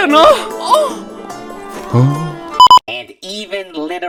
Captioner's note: out-of-context-able moan